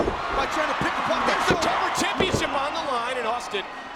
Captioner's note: audience cheers